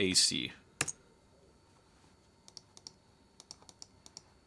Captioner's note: mouse clicking